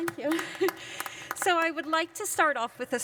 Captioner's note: applause